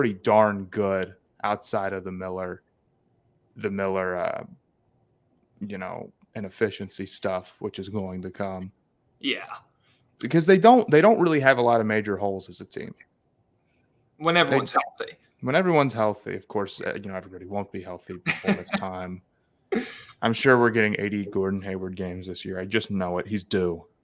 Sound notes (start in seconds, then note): 19.7 laughs